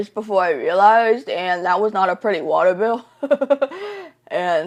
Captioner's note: laughs